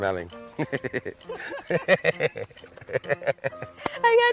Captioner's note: laughing